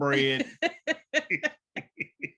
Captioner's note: laughter